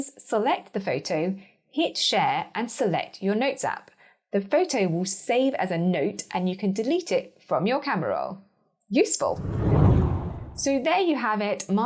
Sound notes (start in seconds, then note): 9.3 air whooshing